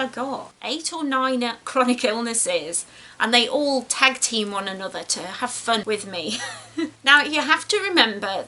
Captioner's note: laughs